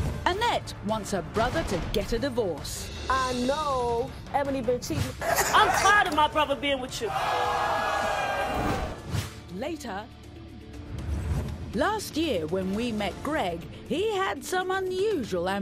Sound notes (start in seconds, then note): 7.0 audience yells